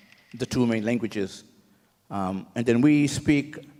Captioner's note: clap sticks rattle